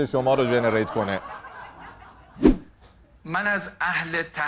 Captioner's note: laughter